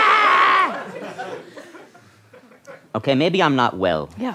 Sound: screams

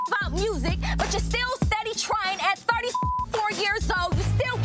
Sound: beep; beep

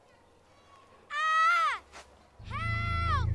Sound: kid screaming

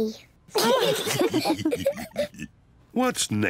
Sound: all laugh

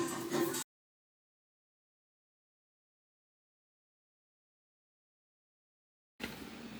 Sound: no sound due to copyright

